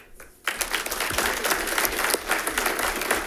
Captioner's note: all clapping